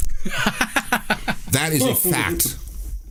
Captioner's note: laughter